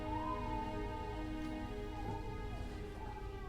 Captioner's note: baby continues crying